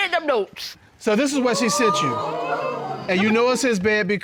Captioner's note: audience exclaiming